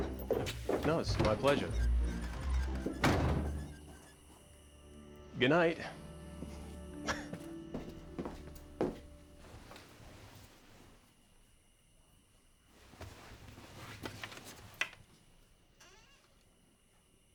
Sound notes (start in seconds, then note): 2.9 door slams; 7.0 laughs